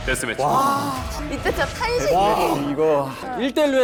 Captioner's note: everyone sighed